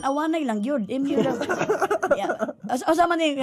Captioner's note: chuckles